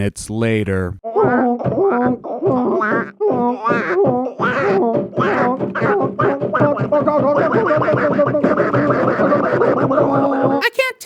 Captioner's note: loud, agressive sex noises between two water fowl